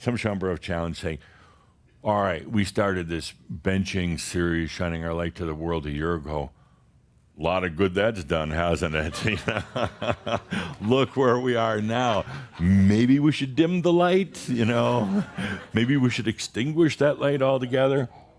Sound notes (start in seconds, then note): 9.0 Adamus laughs